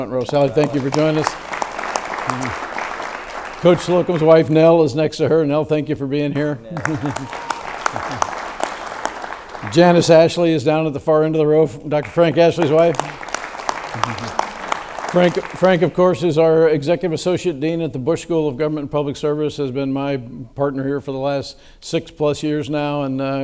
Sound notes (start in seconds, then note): 1.7 audience claps; 6.7 audience claps; 12.0 audience claps